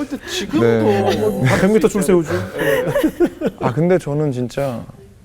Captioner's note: laughing